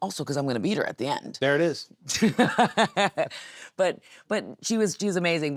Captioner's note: Nattie laughs